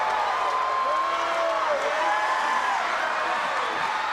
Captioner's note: crowd cheering